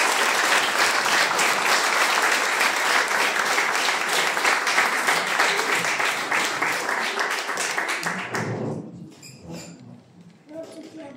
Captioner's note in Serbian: аплауз